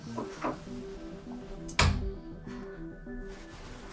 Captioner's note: soft dramatic music; door thuds